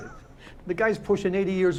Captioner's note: Hitch chuckling